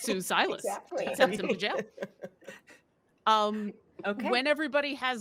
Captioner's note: laughing